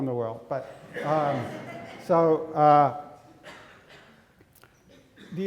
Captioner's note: audience laughing